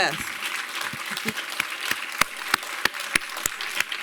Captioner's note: applause